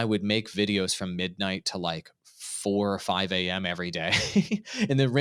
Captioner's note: laughing